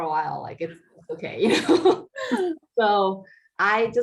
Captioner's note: laughing